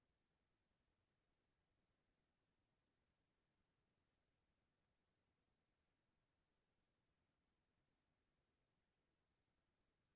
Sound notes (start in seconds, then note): none